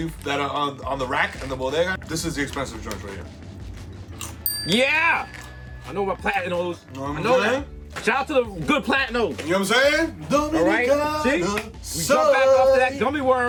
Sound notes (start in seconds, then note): 4.4 bell dings; 10.5 sings in foreign language; 12.8 claps